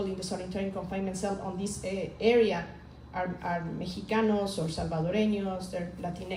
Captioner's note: speaks in foreign language